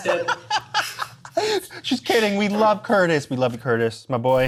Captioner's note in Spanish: risas